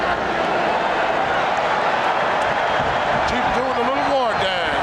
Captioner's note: audience cheering